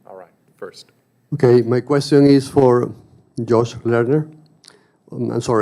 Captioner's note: voiceover